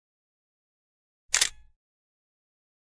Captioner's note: camera shutter clicks